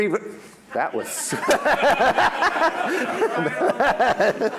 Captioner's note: audience laughs